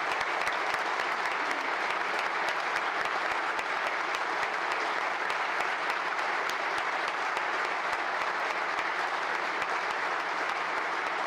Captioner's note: applause